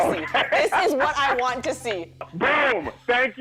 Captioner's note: laughing